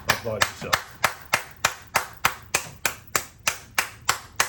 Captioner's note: clapping